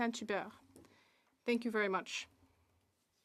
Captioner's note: speaking French